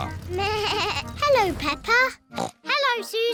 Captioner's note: horn beeps; bleats; snorts